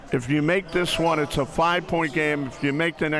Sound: none

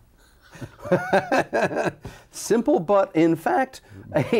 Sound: laughter

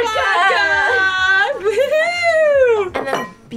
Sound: cheers

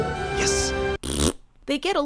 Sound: farts

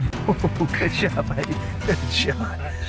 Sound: laughter

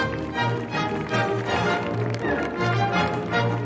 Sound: applause continues over music

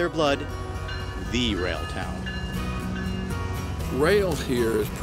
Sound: rail crossing bells

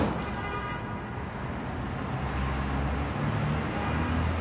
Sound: busy traffic passing

